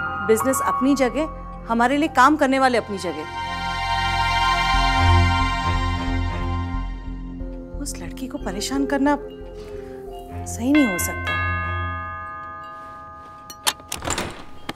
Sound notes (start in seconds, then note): 10.4 Door bell ringing; 13.6 Door opens